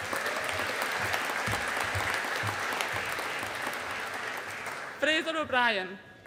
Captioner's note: audience applauding